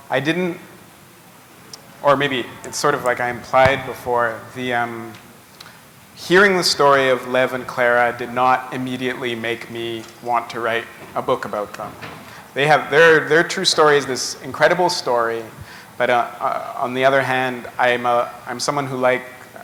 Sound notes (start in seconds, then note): none